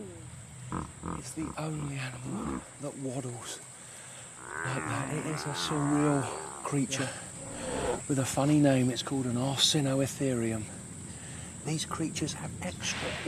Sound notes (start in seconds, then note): 4.4 bellowing